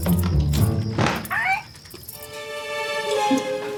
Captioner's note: loud banging of the door